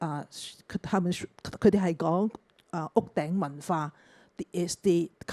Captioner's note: Cantonese